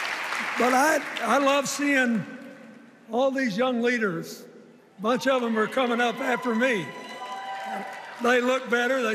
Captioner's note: cheers and applause